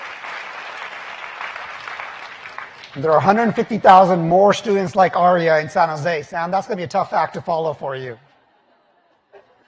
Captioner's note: applause